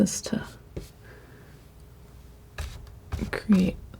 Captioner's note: scratching